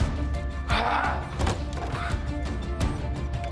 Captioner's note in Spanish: Grito; Portazo